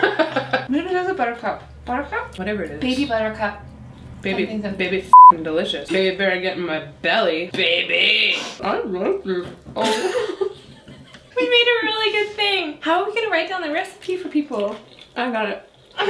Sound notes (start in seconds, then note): 0.0 laughs; 9.6 laughs